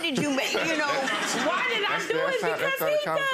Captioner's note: audience laughs